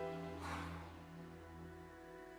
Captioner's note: sighing